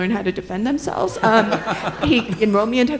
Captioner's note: all laughing